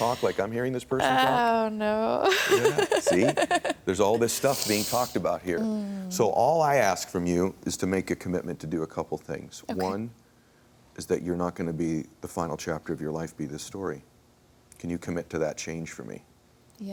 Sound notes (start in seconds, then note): 1.0 laughs